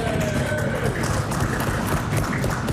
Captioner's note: applause